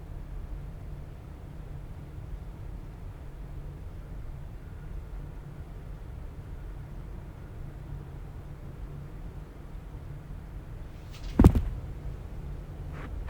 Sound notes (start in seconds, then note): 11.0 thud